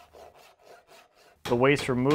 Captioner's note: saw zips